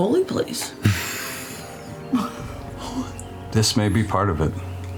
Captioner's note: laughter